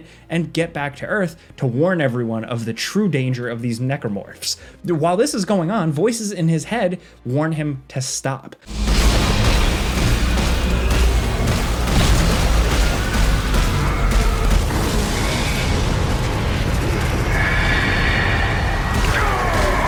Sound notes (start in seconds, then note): 8.8 gun firing; 14.8 tense music